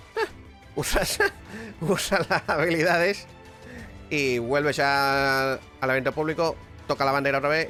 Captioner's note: risas